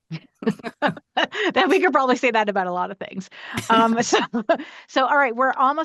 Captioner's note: laughs